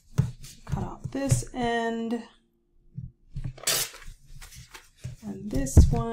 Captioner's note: paper ripping